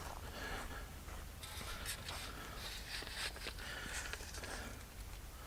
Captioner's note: tripod settling